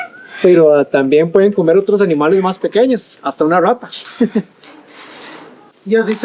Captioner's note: in Spanish